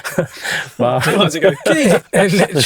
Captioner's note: all chuckle